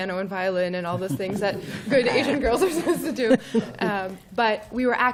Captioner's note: laughter